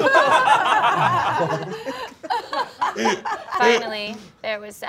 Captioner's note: all laughing